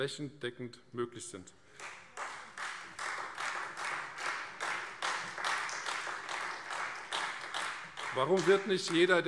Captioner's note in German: Beifall Freie Demokraten